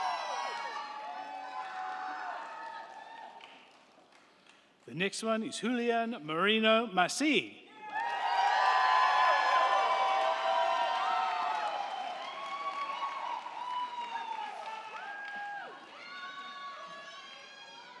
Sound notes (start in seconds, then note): 7.7 crowd cheering; 7.8 crowd clapping